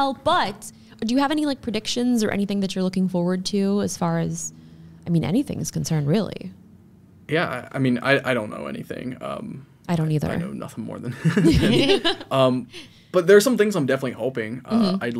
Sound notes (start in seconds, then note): 11.0 all laughing